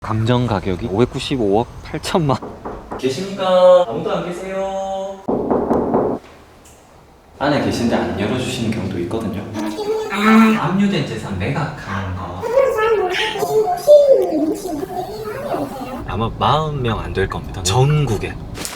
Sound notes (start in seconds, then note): 2.3 knocking; 5.3 forceful knocking